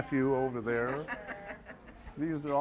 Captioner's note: woman laughs